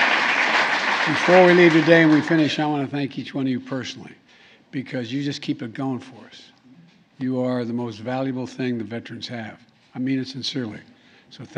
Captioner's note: applause